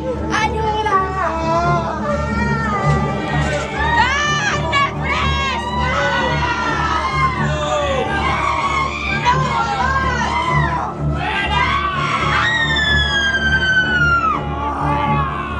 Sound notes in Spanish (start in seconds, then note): 2.3 Gritos